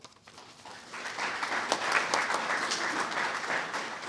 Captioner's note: audience clapping